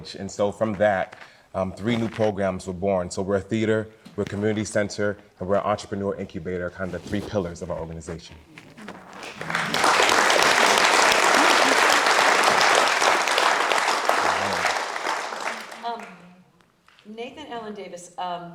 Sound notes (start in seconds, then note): 9.0 audience applauding